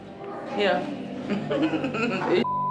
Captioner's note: laughing